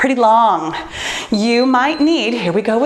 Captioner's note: bell dinging